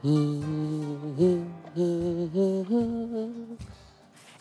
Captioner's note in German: Pierre summt eine Melodie